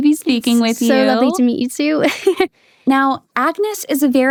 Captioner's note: laughs